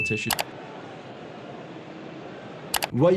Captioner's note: keyboard clicking